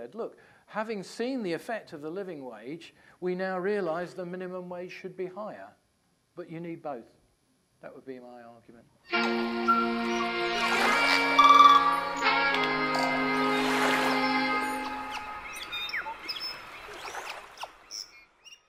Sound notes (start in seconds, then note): 9.1 jazz music; 11.1 jungle noises and waves splashing